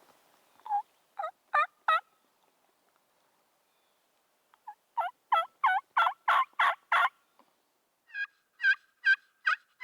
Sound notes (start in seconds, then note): 1.5 turkey calling